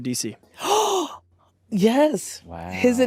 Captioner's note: gasps